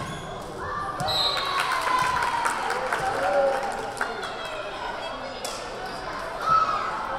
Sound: crowd cheering; whistle blaring

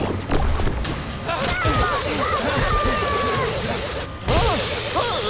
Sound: screaming

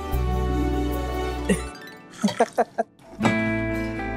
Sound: laughing

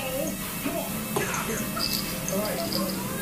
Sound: jingling toy

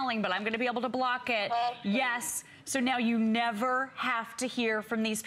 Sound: electronic voice

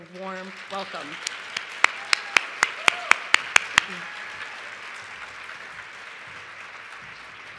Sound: applause

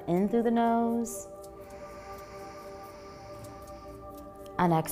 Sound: inhaling

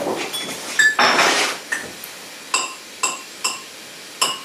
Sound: tapping on pots

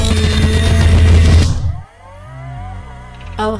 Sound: start up noises

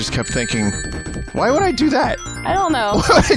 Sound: laughs

